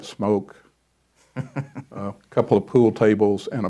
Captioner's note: chuckles